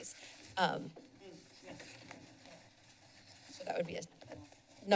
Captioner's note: background chatter